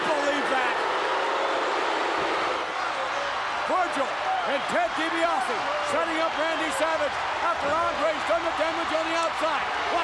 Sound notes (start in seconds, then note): 0.9 audience booing